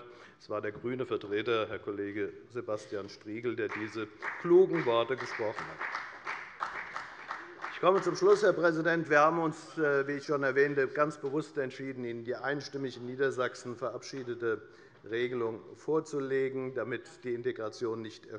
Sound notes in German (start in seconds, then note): 6.0 Beifall bei der FDP